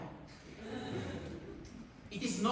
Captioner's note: laughter